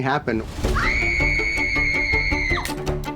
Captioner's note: screaming